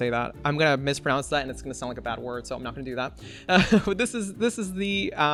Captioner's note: laughs